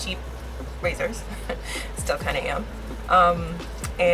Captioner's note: laughs